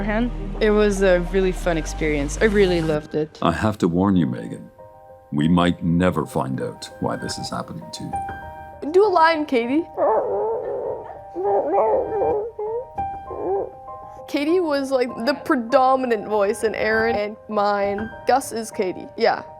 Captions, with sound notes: It was a really fun experience. I really loved it. I have to warn you, Mégan, we might never find out why this is happening to you. Do a line, Katie. (bird sounds) Katie was like the predominant voice in Aerin and mine. Gus is Katie, yeah.